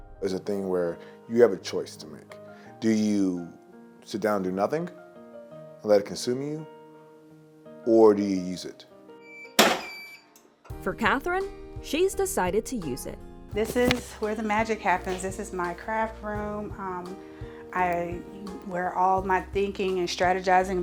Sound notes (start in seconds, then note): 9.5 heat press beeps and clicks